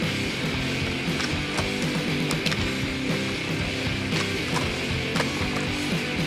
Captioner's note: scraping noises